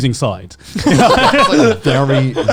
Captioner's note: laughing